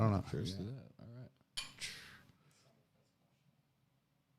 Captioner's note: glasses clanks